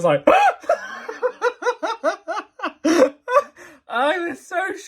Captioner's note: laughing; screaming comically